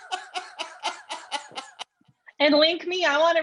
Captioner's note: laughter